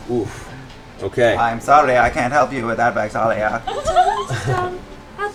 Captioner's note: computer voice